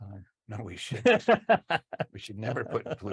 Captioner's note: laughs